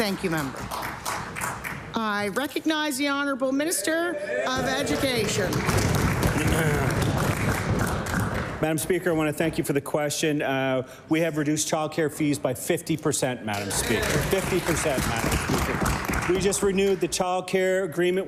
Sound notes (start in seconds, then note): 4.9 applause; 10.4 applause